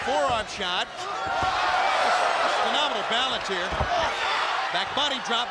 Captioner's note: crowd exclaims